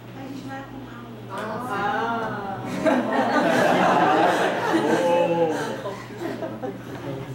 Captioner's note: laughs